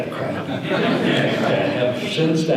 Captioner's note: audience laughter